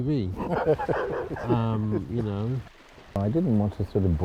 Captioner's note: laughs